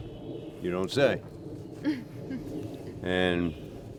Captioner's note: se ríe entre dientes